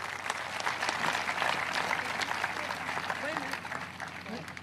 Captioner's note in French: applause